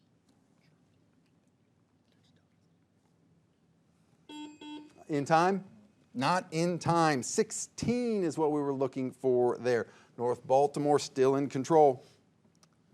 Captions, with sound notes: (buzzer beeps) (bell rings) In time? Not in time. 16, is what we were looking for there. North Baltimore still in control.